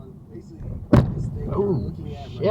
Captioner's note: bam